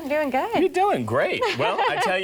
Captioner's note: laughs